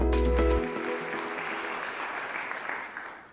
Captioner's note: applause